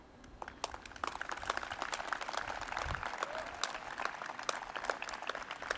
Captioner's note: audience applauds and cheers